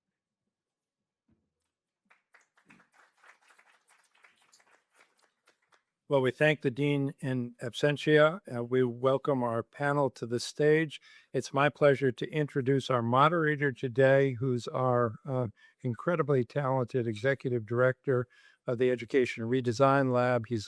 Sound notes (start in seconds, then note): 2.0 applause